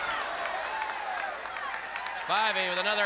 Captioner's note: crowd cheering